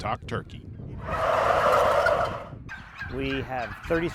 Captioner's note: turkeys clucking